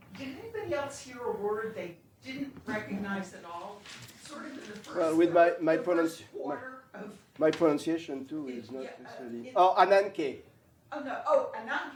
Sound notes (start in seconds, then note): 9.5 non-english